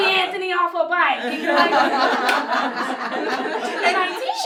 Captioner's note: laughter